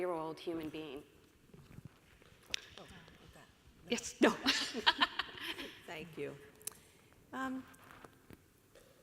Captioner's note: small chatter and soft laughter as the panelists exchange the clicker